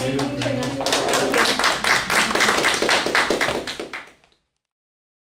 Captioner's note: applause